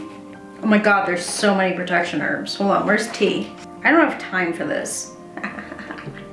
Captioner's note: chuckles